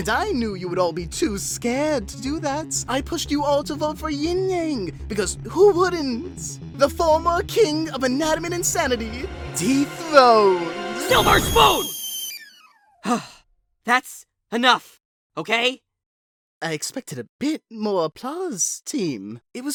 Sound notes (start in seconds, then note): 11.1 fire extinguishes; 13.0 sighs